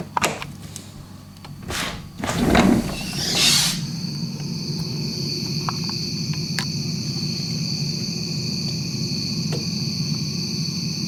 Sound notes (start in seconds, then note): 0.1 lock clicks; 0.1 sliding door squeaks; 4.2 crickets chirping